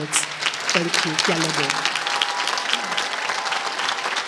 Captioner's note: applause